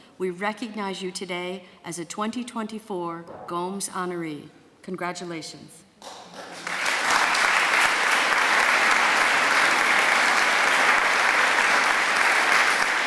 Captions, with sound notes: We recognize you today as a 2024 Gomes honoree. Congratulations. [APPLAUSE]